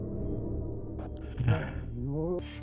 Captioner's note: heavy breath